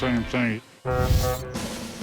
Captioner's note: ship horn blows